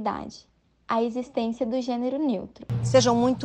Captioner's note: in Brazilian Portuguese